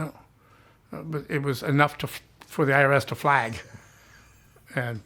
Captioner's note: chuckles